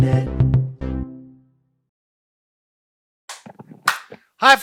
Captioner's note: cheerful tone; claps